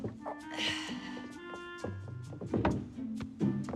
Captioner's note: grunting